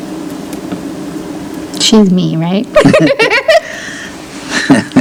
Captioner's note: laughs